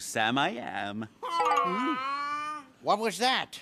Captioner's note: Terrence squawking